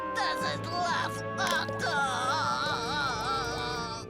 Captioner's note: Otto crying